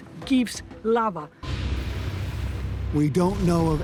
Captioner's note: explosion